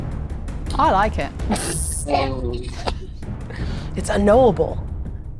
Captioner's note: puffs